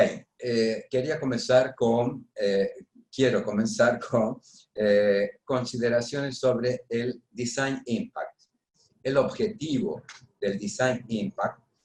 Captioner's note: speaking spanish